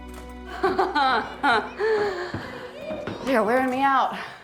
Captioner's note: laughs